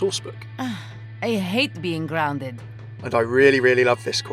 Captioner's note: voiceover